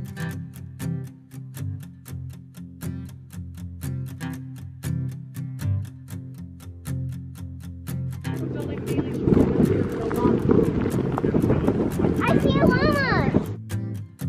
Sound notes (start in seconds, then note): 0.2 light guitar music; 8.2 wind blowing; 8.3 people chatting